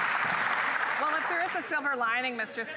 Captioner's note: applause